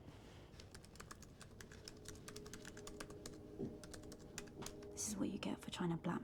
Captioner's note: laptop keyboard clicking